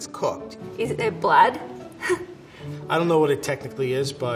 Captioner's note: chuckles